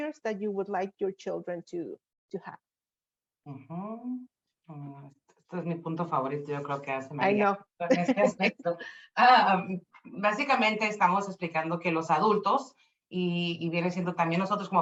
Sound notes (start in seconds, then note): 5.9 speaking Spanish; 7.9 laughs; 8.8 speaking Spanish